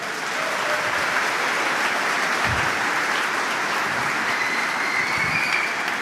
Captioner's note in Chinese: Applause; 掌声